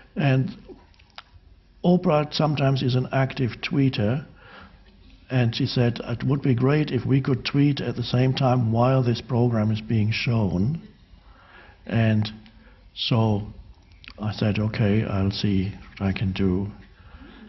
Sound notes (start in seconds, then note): none